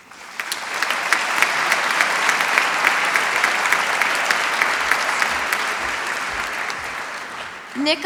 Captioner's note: applause